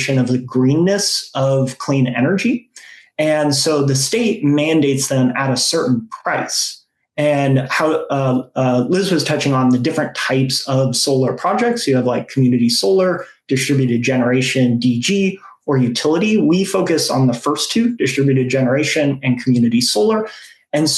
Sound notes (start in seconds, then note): none